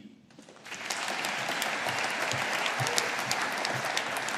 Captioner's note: audience applauding